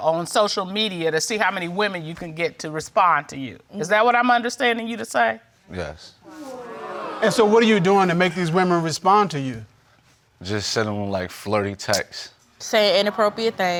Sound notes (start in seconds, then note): 6.2 audience exclaims